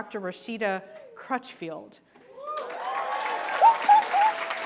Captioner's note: applause